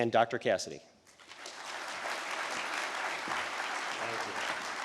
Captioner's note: audience applauding